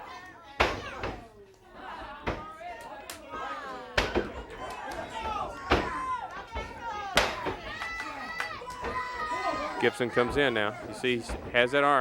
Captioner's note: crowd cheers